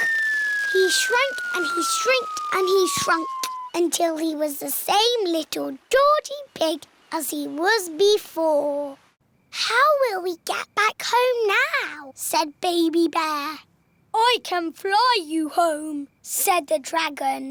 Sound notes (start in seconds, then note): none